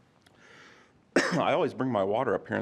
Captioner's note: coughs